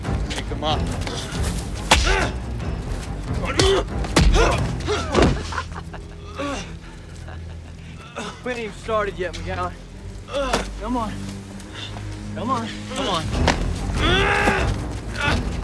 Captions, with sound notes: Pick him up. (LAUGHING) (GROANING) We haven't even started yet, McGowan. Come on. Come on. Come on. (GRUNTING)